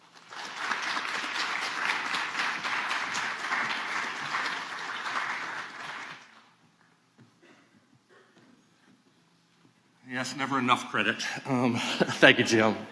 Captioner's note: applause